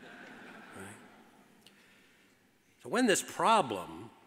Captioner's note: audience laughs